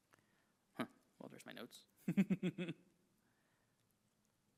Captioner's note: chuckles